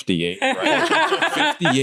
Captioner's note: laughter